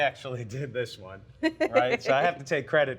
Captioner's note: laughs